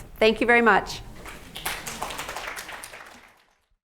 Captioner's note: applauds